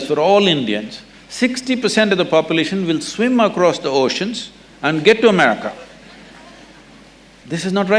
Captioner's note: few laugh